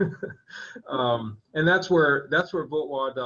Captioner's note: laughing